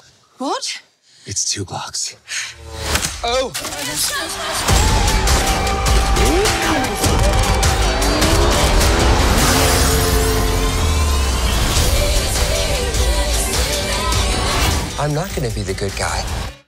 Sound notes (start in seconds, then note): 3.1 guns click; 5.7 motor revving